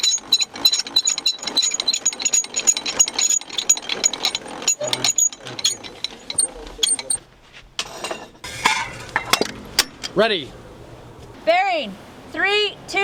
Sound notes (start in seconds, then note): 2.9 sound of wheels turning, shell being loaded